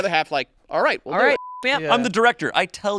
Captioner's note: beep